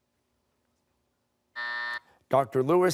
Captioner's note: buzzer